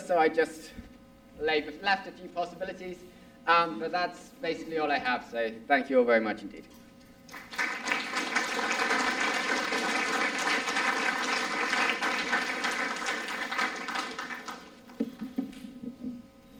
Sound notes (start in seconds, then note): 7.3 applause